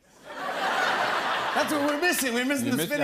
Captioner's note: laughter